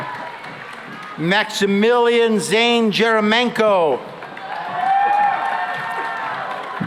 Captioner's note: cheering and applause